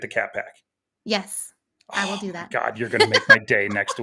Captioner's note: laughs